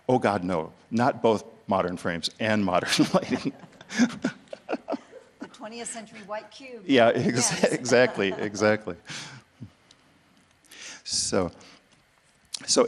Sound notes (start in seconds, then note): 2.8 both laughs; 7.1 chuckles